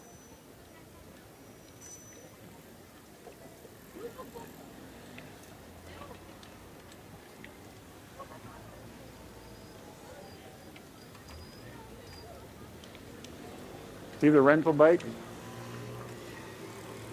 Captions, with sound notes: (traffic bustling) (people chattering faintly) See the rental bike?